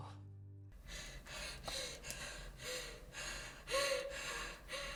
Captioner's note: Abby pants